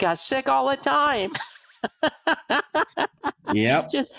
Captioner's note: laughter